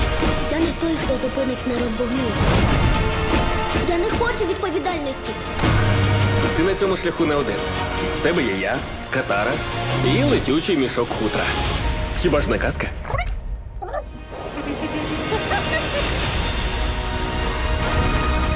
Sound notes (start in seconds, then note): 12.9 creature chittering; 14.3 all laughing; 16.6 sweeping orchestral music playing